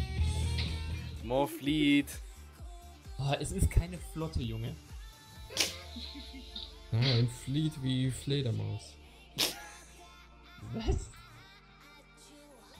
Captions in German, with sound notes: More Fleet! boah, es ist keine Flotte junge! Ja, Fleet wie Fledermaus [Lachen] Was?